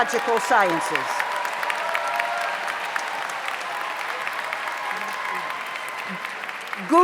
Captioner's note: audience applauds; audience cheers